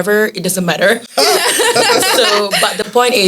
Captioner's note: laughter